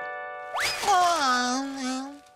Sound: yawning

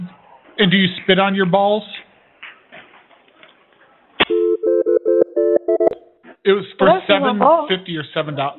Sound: phone ringing

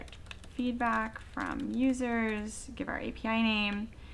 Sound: typing

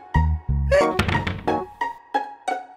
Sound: giggles

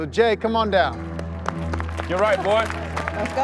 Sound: applauding

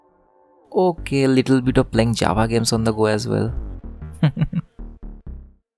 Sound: laugh

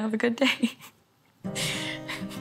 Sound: laughs

